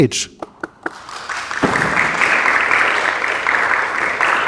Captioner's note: audience applause